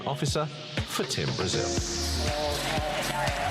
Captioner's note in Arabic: تصفيق